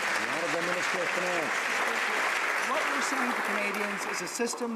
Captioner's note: some Applause